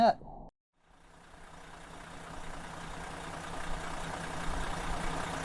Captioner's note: engine rattling